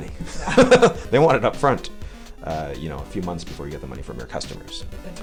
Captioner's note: laughs